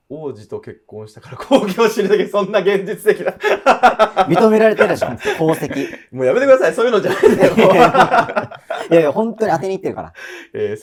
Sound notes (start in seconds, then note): 8.3 laughing